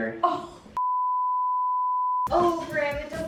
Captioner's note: beeping from graphic